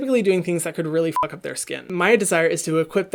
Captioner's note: beep